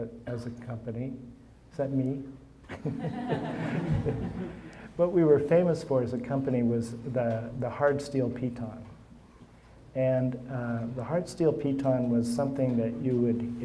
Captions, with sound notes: as a company-- is that me? (audience laughing) What we were famous for, as a company, was the hard steel piton. And the hard steel piton was something that you would--